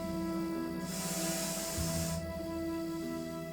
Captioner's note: hisses